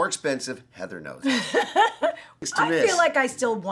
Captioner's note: Heather laughs